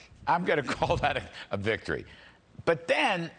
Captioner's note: laughter